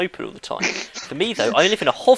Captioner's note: laughing